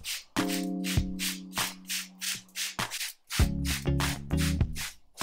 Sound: water being sprayed

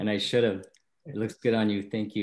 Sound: chuckles

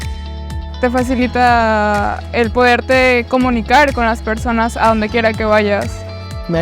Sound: speaking in foreign language

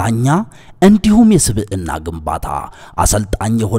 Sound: none

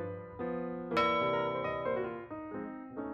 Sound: ding

